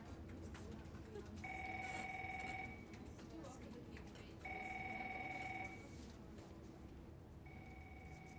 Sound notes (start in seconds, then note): 1.6 phone ringing